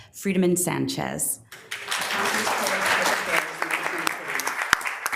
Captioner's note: members applauding